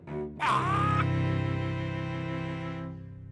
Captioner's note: squark!